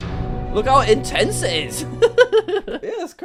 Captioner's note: laughs